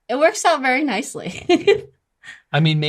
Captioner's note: laughs